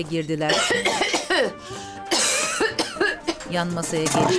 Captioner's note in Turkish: Öksürme sesi